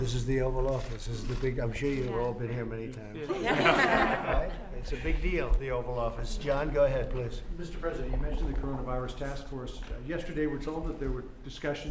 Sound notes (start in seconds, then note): 3.2 laughter